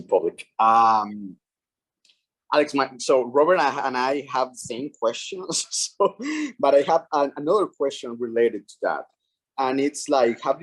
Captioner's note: chuckles